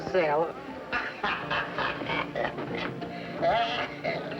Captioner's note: laughter; cackling